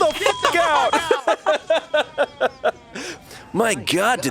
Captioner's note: beep; laughs